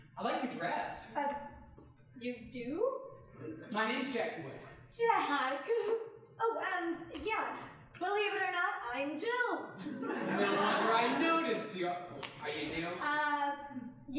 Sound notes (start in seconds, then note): 5.8 laughing; 9.8 audience laughing